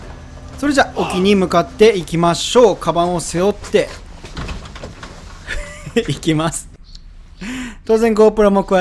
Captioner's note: haha